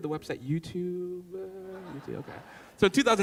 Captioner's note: laughing